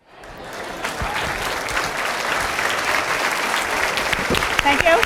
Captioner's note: applause